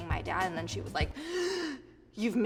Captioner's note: gasps